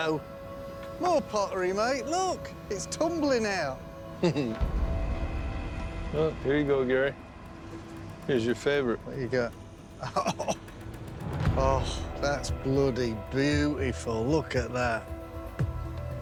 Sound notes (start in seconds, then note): 4.2 chuckles